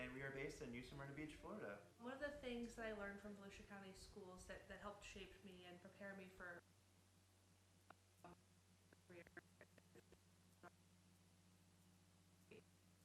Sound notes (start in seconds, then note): 6.9 stuttering audio